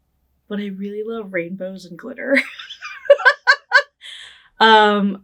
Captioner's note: laughing